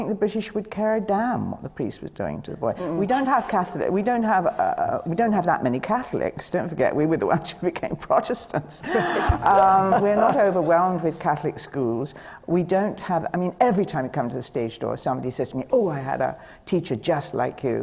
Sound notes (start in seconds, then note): 8.8 laughs